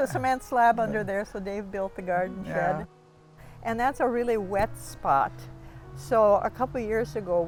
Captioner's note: laughter